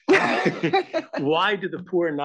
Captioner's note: laugh